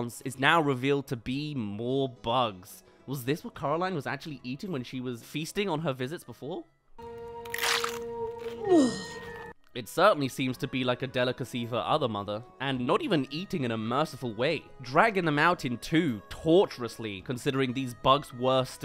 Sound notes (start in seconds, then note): 7.5 chomps